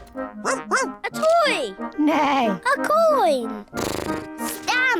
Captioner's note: barks; snorts; neighs